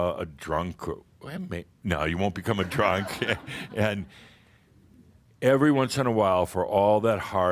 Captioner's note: some chuckles